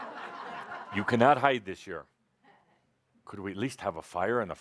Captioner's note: laughter